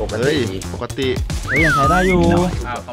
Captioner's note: Pat